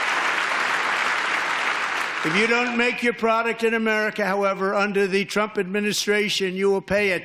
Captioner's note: applause